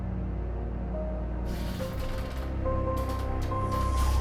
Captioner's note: machinery crackling